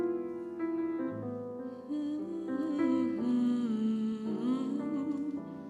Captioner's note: humming